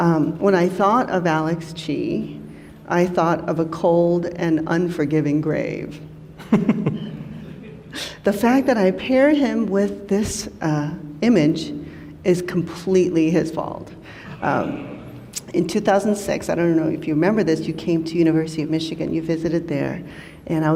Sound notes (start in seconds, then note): 6.4 laughs